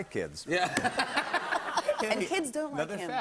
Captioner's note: laughter